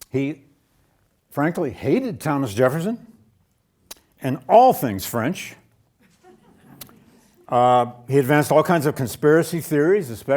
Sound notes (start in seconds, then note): 6.0 audience laughing